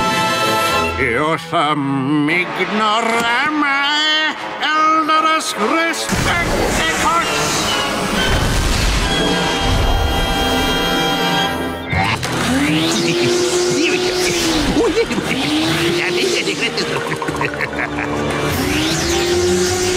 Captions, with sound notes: Youthum Ignorami, Elderus Respecticus! [laughing] Here we go.